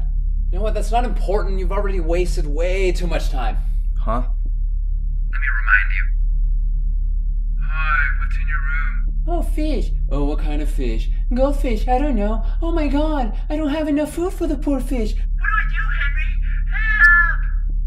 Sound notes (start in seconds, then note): 7.9 mocking voices